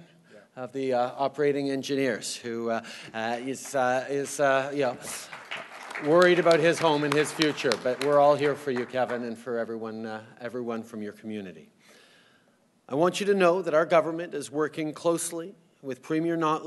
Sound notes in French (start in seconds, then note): 6.9 Applaudissements